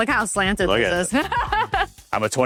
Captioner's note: laughs